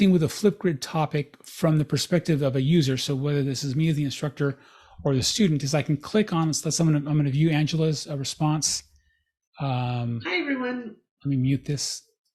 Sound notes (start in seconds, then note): 9.5 recording playing